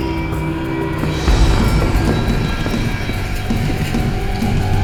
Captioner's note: footsteps thudding